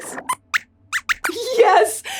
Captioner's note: squeaks squeaks